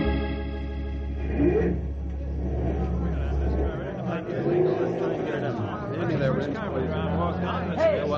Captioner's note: indistinct chatter